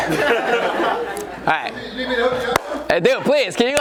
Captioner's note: audience laughs